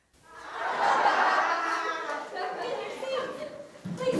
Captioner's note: group chatter